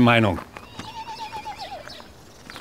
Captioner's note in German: Entferntes Wiehern